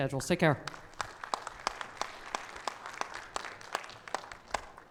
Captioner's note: audience applauds